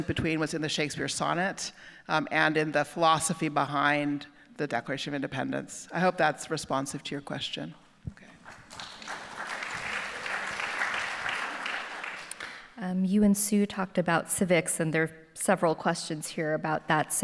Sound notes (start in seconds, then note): 8.3 audience applauding